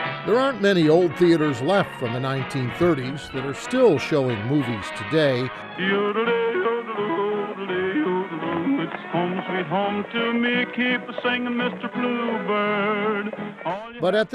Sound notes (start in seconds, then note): 0.0 upbeat music; 4.6 man humming